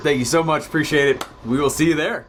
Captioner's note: hand clap